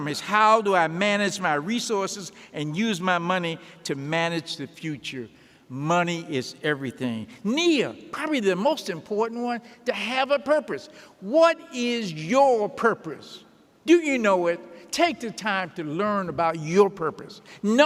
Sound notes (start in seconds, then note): none